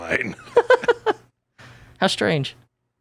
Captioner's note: both laughing